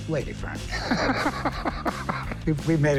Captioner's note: laughs